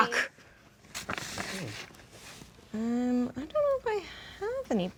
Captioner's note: paper rustling